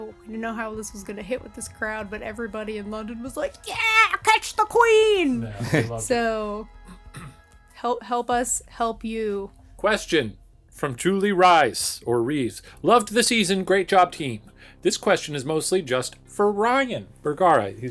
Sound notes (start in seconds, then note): 5.4 chuckling; 6.9 throat clearing